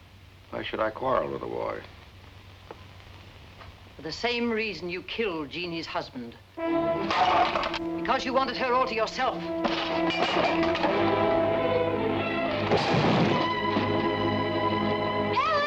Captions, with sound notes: - Why should I quarrel with the boy? The same reason you killed Jeanie's husband. (dramatic orchestral music) (pipe crashes) Because you wanted her all to yourself. (dramatic orchestral music) (table crashes) - Ellen!